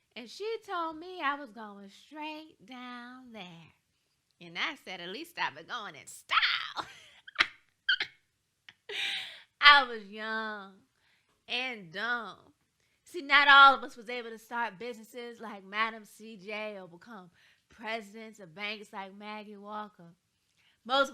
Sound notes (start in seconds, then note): 7.9 laughs